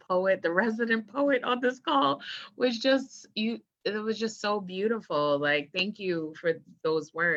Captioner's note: voice breaking